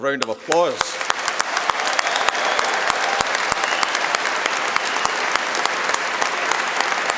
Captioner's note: applause